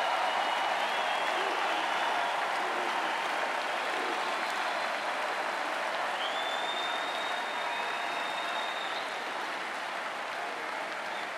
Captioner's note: cheering and Applause